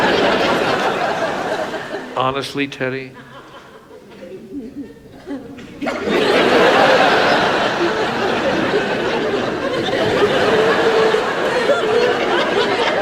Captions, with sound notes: Honestly, Ted E. (audience laughs) (audience laughs)